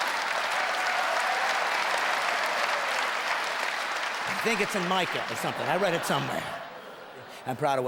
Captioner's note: loud applause and laughter